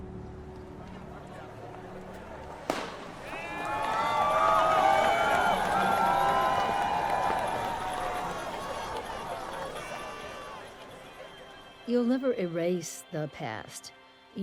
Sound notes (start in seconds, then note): 2.6 gunshot; 4.7 cheering